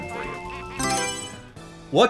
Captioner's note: Mario Selection Sound